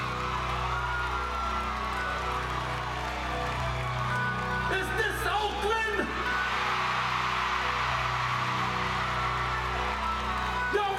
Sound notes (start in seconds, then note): 9.0 screams